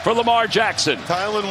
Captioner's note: cheers and applause